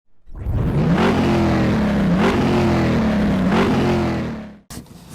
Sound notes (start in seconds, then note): 0.3 car engine revving